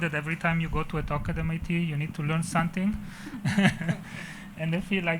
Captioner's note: chuckles